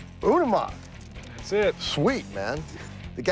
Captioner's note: none